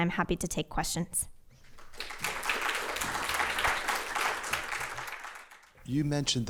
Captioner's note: applause